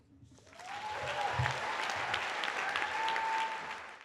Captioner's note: applause